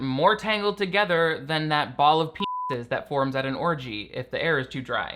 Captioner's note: beeps